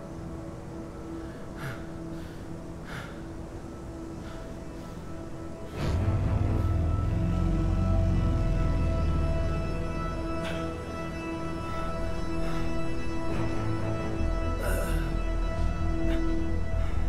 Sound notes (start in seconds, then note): 1.6 panting; 5.8 ominous theme plays